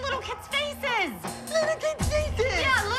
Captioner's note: mockingly